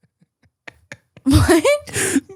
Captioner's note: laughs